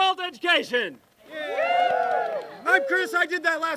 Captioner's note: cheering